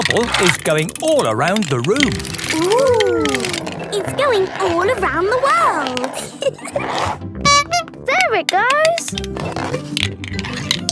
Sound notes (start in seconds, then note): 6.1 giggling; 7.4 honking